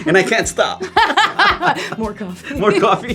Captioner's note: laugh